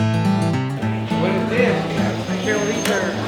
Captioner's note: speaking foreign language